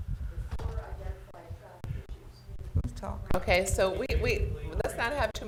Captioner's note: board chatting quietly